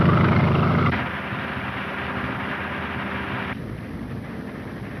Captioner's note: engine puttering